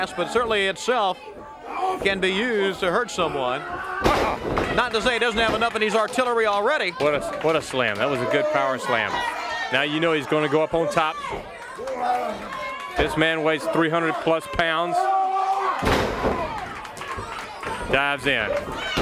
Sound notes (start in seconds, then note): 14.6 crowd chatter